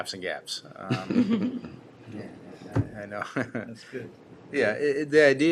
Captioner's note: laughter